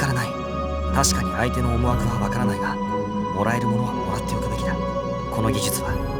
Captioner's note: whisper